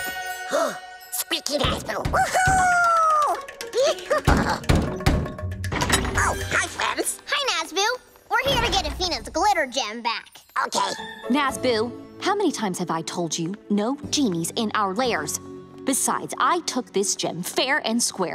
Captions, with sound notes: [gasps] Squeaky Nazboo. -[knocking on door] -Whoo-hoo! [giddy laughing] [knocking continues] -Oh, hi, friends. -Hi, Nazboo. We're here to get Afina's Glitter Gem back. Okay. Nazboo! How many times have I told you? No genies in our lairs. Besides, I took this gem fair and square.